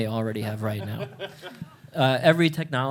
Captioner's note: chuckling